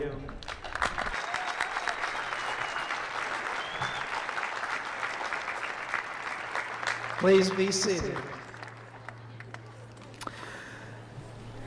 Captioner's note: applause